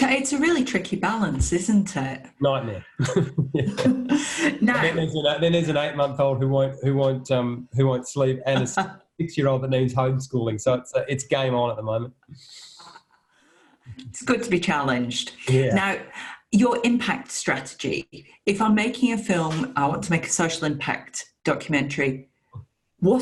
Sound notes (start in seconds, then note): 2.5 chuckling; 8.5 laughing